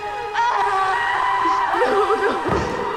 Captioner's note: dramatic music; screaming